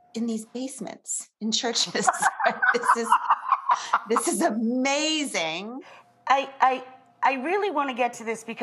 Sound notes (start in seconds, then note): 1.8 laughs